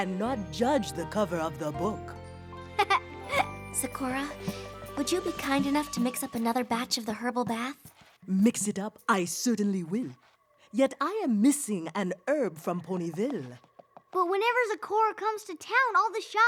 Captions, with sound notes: AND NOT JUDGE THE COVER OF THE BOOK. [ LAUGHS ] ZAKORA, WOULD YOU BE KIND ENOUGH TO MIX UP ANOTHER BATCH OF THE HERBAL BATH? MIX IT UP, I CERTAINLY WILL. YET I AM MISSING AN HERB FROM PONYVILLE. BUT WHENEVER ZAKORA COMES TO TOWN,